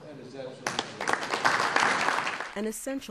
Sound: applause

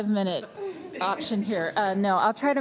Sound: laughter

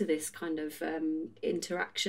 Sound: none

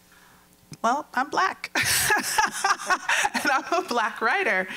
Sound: laughing

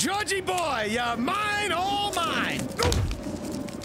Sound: grunts

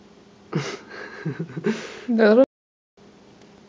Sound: laughs

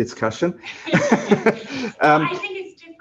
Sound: laughter

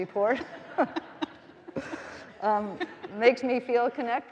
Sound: all laughing

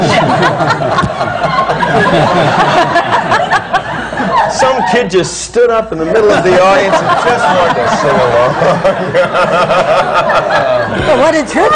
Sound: laughter; laughter

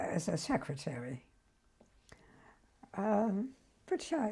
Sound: pauses for 3 seconds

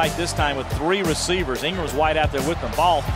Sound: voiceover

